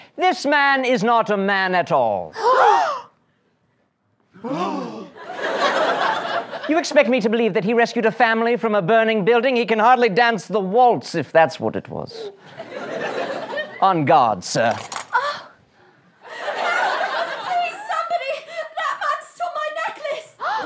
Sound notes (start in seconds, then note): 2.5 gasps